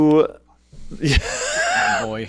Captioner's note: laughter breaks